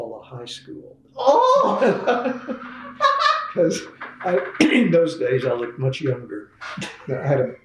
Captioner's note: laughter